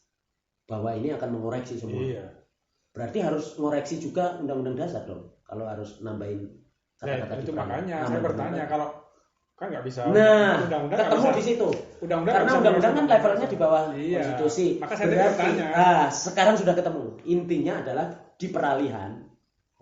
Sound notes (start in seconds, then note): 9.4 laughs